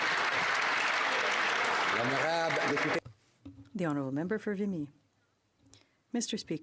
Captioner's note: some Applause